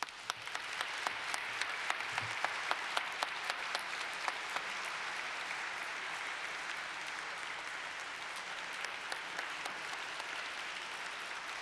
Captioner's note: applause